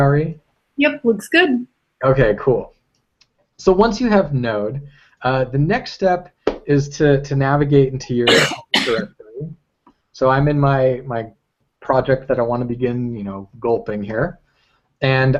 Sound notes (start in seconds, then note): 8.2 cough